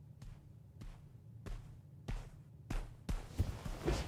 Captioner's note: footsteps approaching